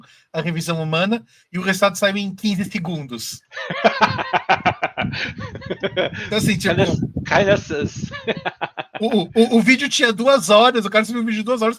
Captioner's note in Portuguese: Risos